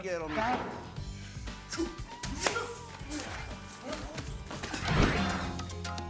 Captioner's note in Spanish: Exclamaciones